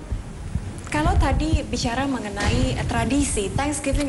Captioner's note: non-english speech